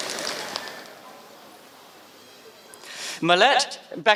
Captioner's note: applause